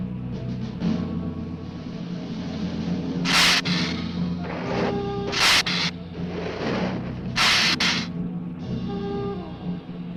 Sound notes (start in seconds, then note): 3.2 lizard hissing